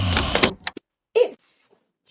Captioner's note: door opening sound. Loud snoring sound